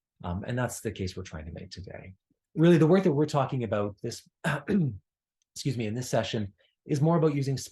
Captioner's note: cough